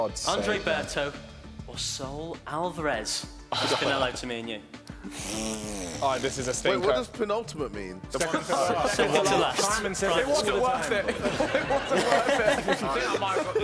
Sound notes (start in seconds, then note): 5.0 blowing raspberries; 10.8 laughing